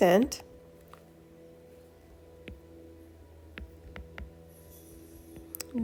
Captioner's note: writing Sounds